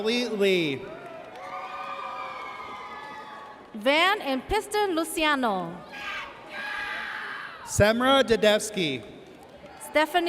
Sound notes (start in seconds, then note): 1.7 audience cheers; 7.0 audience cheers